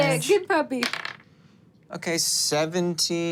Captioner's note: dice rolling